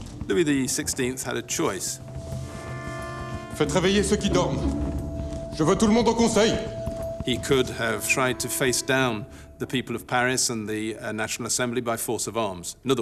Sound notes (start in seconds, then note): 2.0 tense music; 3.5 man speaking in French